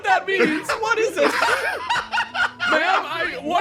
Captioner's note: laugh